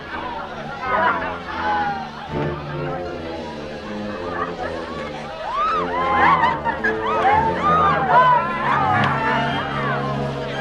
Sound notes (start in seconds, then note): 5.6 women laughing